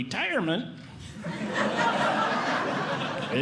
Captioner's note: audience Laughing